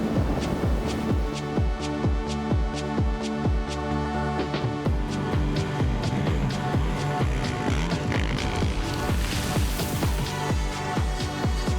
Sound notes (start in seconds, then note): 4.9 dirt bike engine